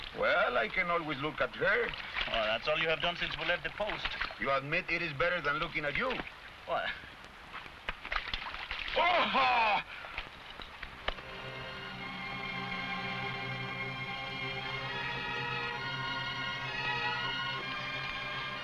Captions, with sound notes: - Well, I can always look at her. - Oh, that's all you have done since we left the post. - You admit it is better than looking at you. - What. (water splashing) (man shouts) (somber music)